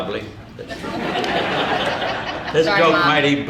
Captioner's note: audience laughing